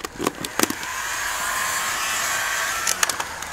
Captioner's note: föhn noises